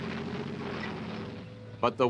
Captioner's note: tank engines growls